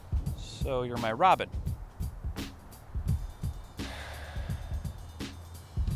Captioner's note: sighs